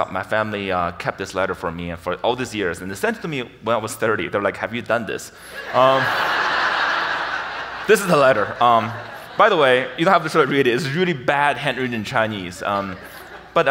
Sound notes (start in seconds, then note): 5.4 audience laughing